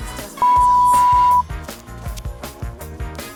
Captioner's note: buzzer